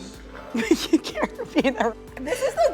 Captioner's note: laughs